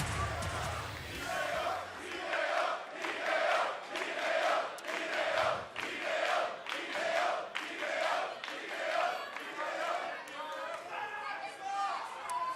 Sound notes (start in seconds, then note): 1.6 fans chanting